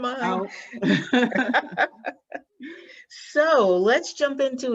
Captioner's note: laughing